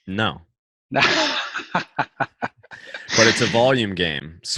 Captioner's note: laughs